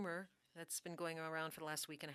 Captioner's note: speaking French